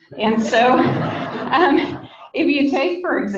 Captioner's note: people laugh